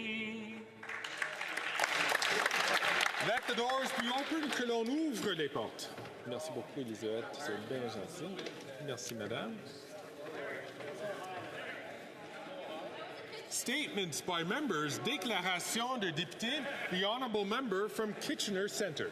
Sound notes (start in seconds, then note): 4.4 applause; 9.9 speaking French